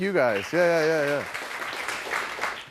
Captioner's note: applause